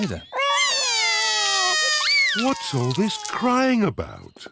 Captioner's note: both cry